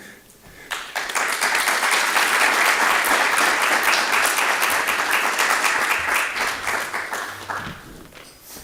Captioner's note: applause